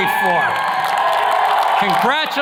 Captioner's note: attendees cheers and claps